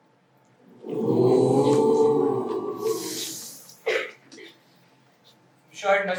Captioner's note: audience ‘Ooo’s